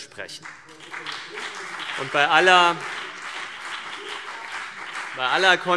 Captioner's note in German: Beifall CDU und BÜNDNIS 90/DIE GRÜNEN